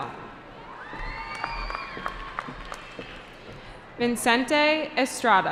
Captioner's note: cheering